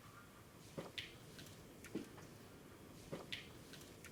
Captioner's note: careful bootsteps